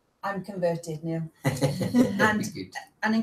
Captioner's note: laughs